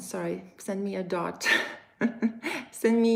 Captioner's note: laughs